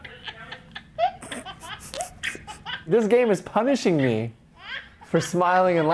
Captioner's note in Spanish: risitas; bebé riendo